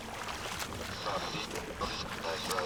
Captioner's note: water rushing